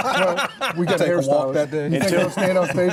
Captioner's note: laughter